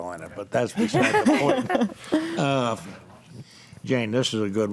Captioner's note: group laughs